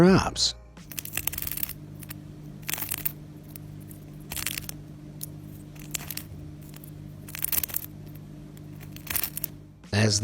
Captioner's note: herb crackles